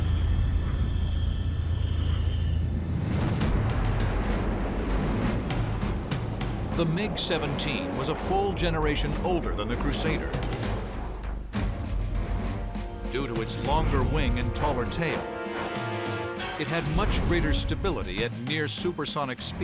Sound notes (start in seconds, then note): 3.3 jet engine noises